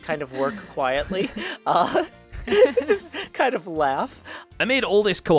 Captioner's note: laughs